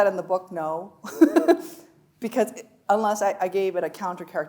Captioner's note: chuckling